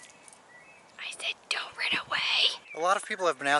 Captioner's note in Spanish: susurro